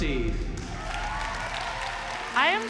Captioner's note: cheering, applause